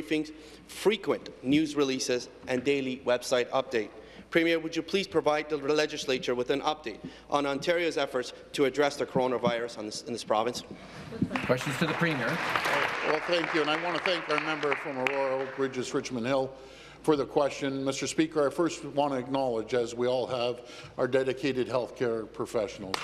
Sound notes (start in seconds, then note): 16.2 applause